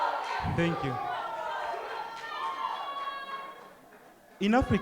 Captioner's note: cheering